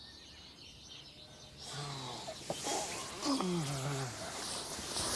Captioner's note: birds chirping